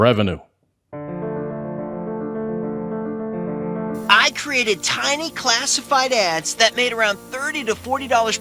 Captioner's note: voice of infomercial salesman